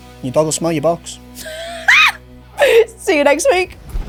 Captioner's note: laughing